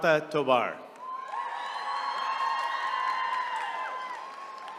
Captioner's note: attendees cheering